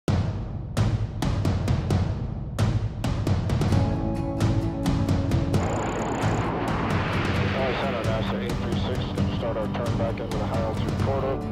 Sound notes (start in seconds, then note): 5.5 jet taking off